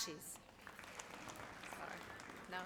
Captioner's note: audience applauds